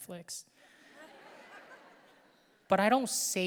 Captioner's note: audience laughing